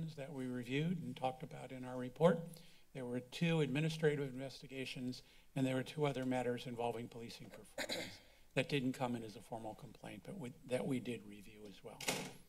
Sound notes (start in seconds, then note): 7.5 clears throat